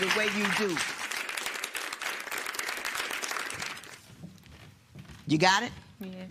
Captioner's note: applause continues